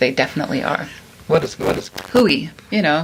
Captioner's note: static